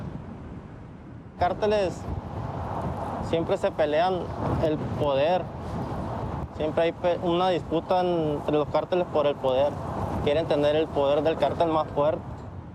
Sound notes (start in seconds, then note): none